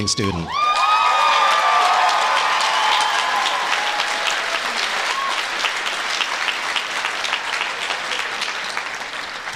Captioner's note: applause